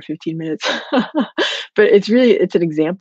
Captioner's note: laughing